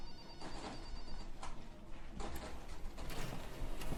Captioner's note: telephones ringing